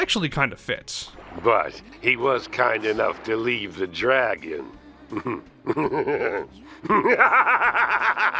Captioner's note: evil laugh